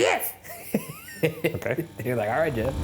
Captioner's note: laughs